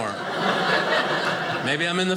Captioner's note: audience laughing